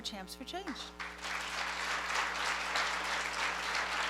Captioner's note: applause